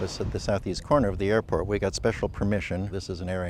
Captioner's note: airplane taking off